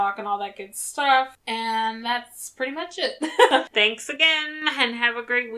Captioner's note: laughs